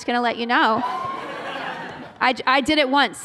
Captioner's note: laughter